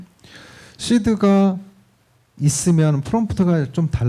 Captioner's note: speaking korean